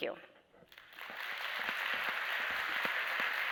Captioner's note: applause